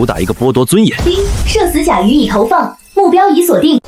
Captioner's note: ding!